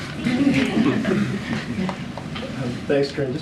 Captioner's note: laughter